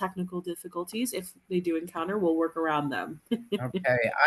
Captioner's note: laughs